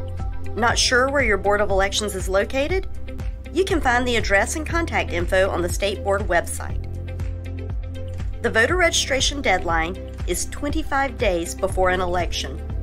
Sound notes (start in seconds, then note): none